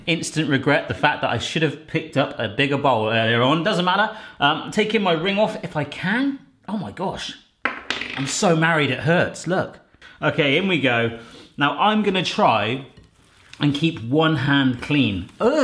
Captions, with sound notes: Instant regret, the fact that I should've picked up a bigger bowl earlier on. Doesn't matter. Taking my ring off, if I can. Oh my gosh. (ring clattering) I'm so married it hurts, look. Okay, in we go. Now, I'm going to try and keep one hand clean.